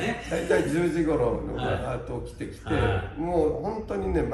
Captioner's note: laughs